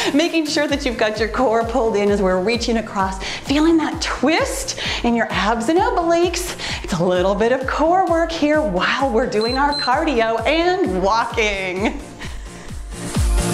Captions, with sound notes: Making sure that you've got your core pulled in as we're reaching across, feeling that twist in your abs and obliques. It's a little bit of core work here while we're (timer beeps) doing our cardio and walking.